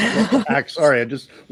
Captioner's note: laughs